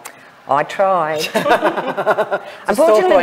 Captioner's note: group laughs